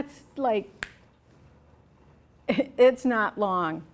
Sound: snaps fingers

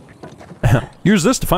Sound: chuckles

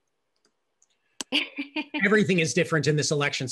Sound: laughing

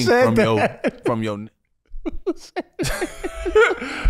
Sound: laughing

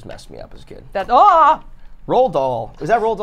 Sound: gasps

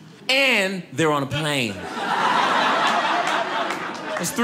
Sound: audience laughing

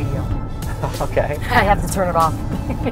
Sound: laughs; laughs

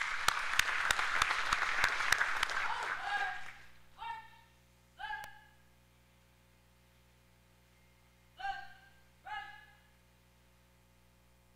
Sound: applause

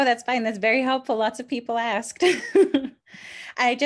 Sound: laughs

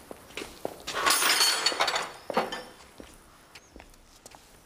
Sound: tools clattering

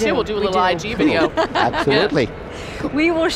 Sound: laughs

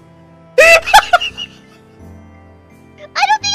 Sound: laughing

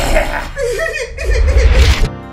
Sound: laugh; sobbing

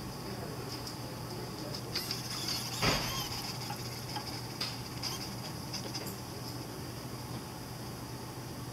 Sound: soft mechanical whirring

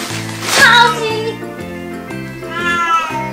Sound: interrupted by cat sound

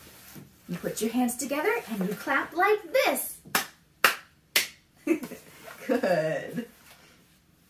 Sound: clap, clap, clap

